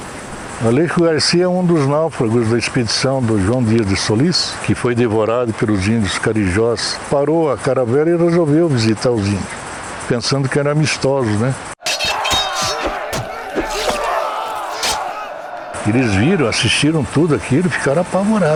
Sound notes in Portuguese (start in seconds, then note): 11.8 ruídos de batalha; 11.8 som estridente de espadas